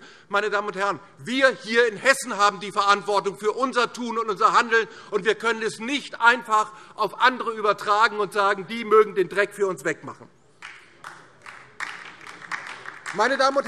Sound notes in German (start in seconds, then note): 10.6 Beifall DIE LINKE